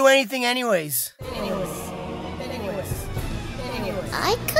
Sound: echoes

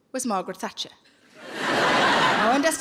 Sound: laughing

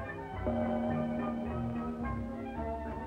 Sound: doorbell

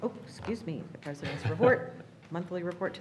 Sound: laughing

